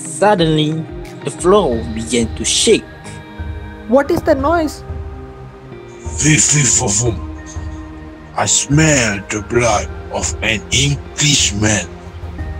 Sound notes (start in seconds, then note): 4.2 scared; 6.6 shouting